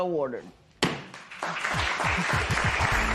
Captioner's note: applause